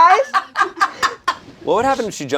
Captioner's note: laughing